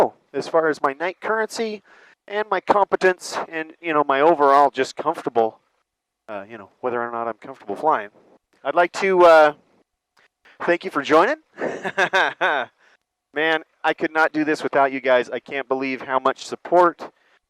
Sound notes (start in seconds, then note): 11.5 laughs